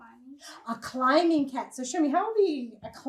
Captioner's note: gasps